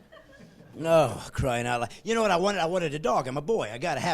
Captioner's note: laughing